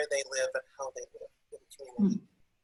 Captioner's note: audio is choppy